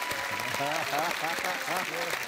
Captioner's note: laughs